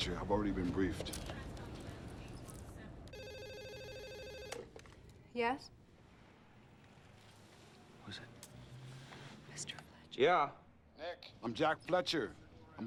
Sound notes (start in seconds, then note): 3.1 telephone rings; 8.9 whispering